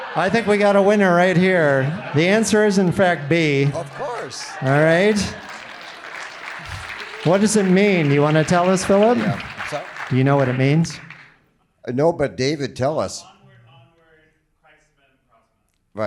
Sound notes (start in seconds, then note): 5.4 audience applauding